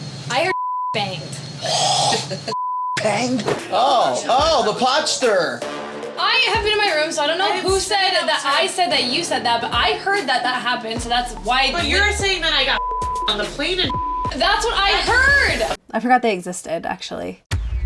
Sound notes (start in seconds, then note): 0.4 beep; 12.4 beep